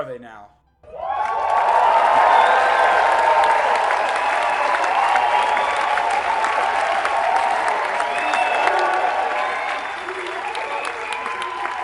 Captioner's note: audience cheering